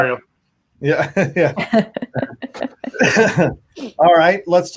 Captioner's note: laughing